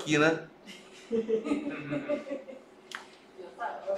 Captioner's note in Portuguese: risos